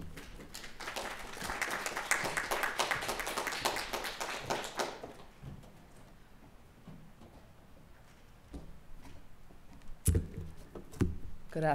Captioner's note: applause